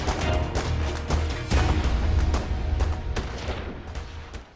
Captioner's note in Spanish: Disparos